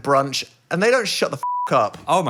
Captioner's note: beeping